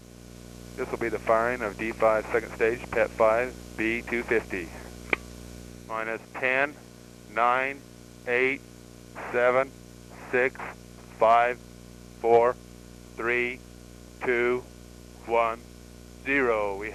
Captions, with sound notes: [unknown speaker on radio] This will be the firing of D5 second stage Pet Five B250. [radio clicking] Minus ten... nine... eight... seven... six... five... four... three... two... one... zero!